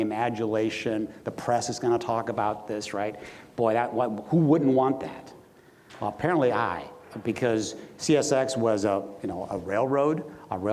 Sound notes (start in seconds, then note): none